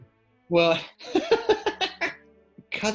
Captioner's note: laughing